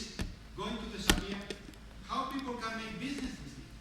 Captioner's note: speaking in foreign language